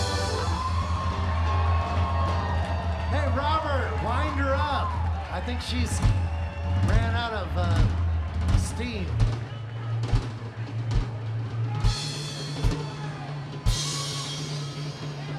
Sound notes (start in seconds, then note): 0.8 audience applauds and cheers; 10.2 audience chattering; 10.2 percussive music